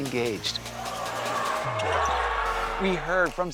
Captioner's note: fans cheering